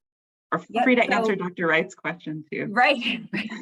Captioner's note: laughs; laughs